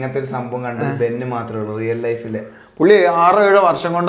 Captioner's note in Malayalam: തൊണ്ട ശരിയാക്കുന്നു